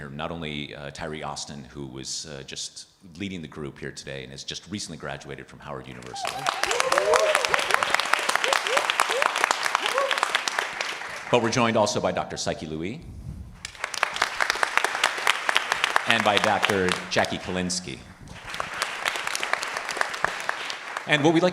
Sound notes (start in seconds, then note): 6.0 participants applauding and cheering; 13.6 participants applauding